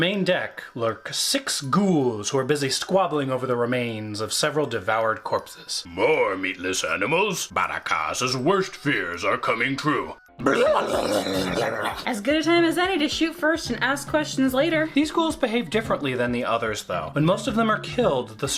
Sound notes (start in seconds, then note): 10.4 ghoul noises